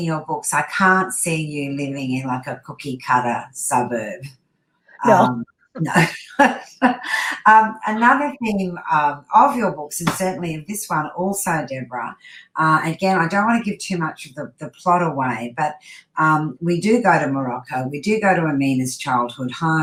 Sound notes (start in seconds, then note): 5.0 laughs